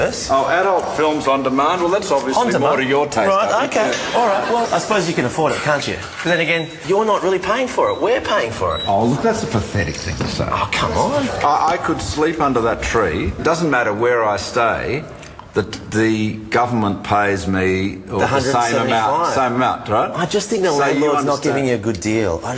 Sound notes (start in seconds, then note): none